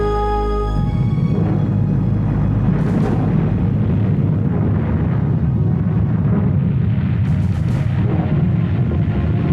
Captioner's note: deep rumbling explosion